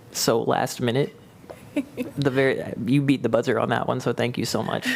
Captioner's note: laughter